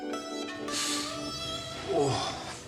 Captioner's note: Harry wincing